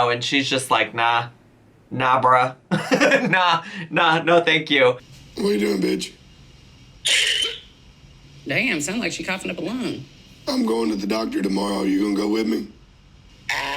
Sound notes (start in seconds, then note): 2.8 laughs; 7.0 Tammy coughing